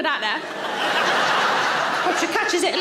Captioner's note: audience laughing